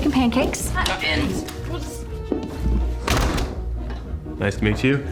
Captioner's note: door opens, closes